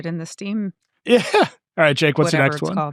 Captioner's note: chuckling